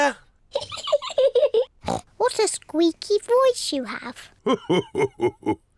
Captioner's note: laughs